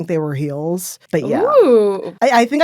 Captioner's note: exclaiming in surprise